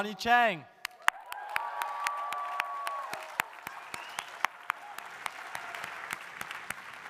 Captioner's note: audience applauding; audience cheering